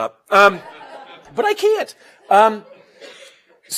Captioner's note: laugh